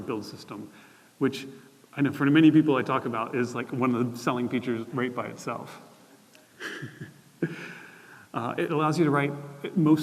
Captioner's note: laughter